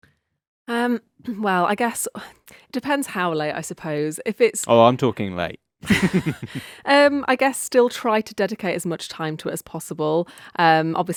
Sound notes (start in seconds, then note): 5.8 person laughing